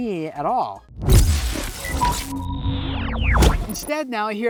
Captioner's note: dramatic sound